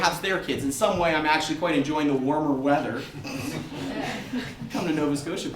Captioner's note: audience laughter